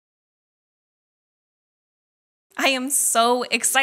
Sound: no audio yet

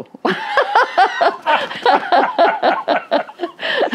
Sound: both laugh

